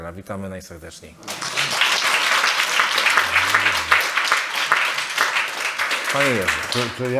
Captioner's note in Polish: oklaski